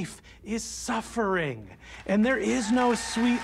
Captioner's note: audience cheering, applauding